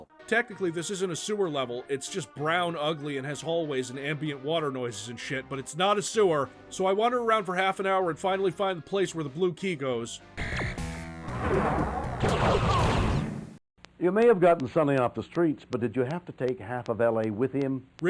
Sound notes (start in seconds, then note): 11.3 door whooshes open; 12.2 pew pew pew